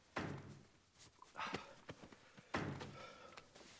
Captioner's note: lee hitting stapler